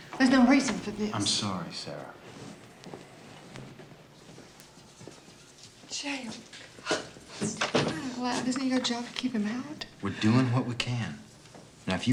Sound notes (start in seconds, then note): none